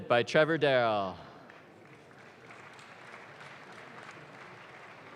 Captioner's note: audience claps